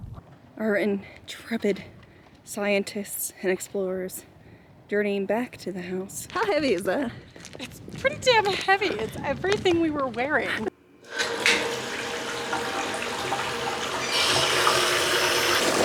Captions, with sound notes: All right trepid scientists and explorers, dirtying back to the house. How heavy is that? - Its pretty damn heavy, its everything we were wearing. (water running)